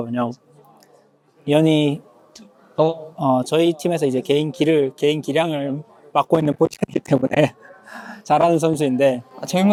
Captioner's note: laughs